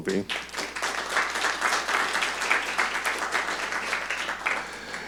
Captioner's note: audience clapping